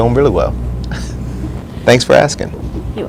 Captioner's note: laughs